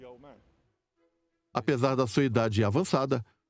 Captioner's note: voiceover